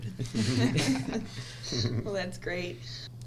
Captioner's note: all laugh